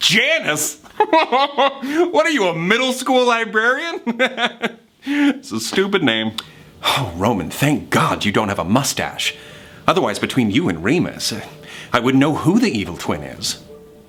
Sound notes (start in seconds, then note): 0.8 laughs; 4.0 laughing